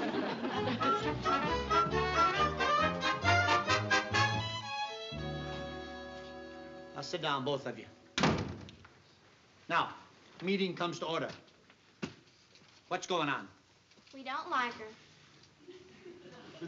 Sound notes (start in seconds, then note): 0.3 playful music; 8.2 door closes